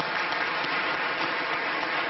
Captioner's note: applause